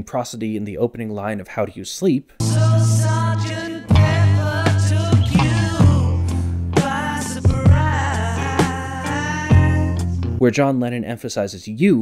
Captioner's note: bang